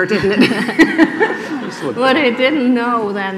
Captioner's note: laughing